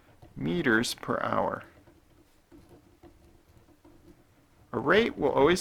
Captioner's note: writing